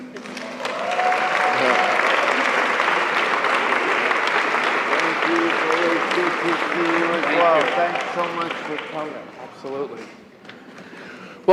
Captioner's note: applause